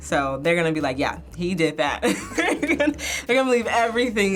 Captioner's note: laughs